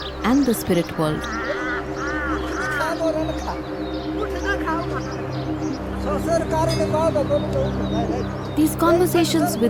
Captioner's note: birds chirpping